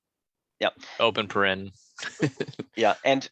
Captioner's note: laughs